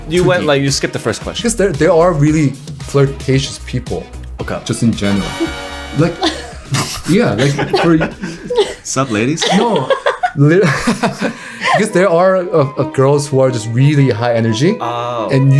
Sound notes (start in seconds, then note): 4.7 trumpets trumpeting; 9.8 laughing